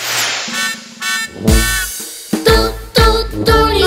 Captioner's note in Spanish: Sonido de bocina